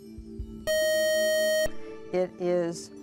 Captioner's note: buzzer